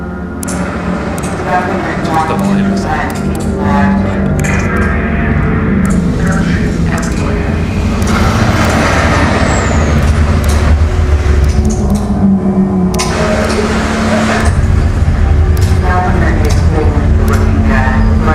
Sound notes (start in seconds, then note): 0.0 clicking; 6.9 truck noises; 11.3 clicking